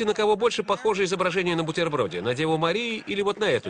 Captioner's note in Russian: Смех в зале